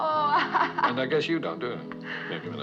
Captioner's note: laughs